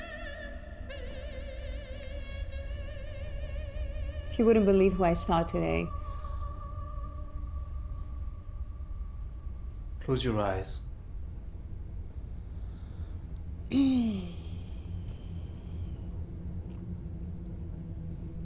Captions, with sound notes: - You wouldn't believe who I saw today. - Close your eyes. (Light dramatic music) (Isabella sighs)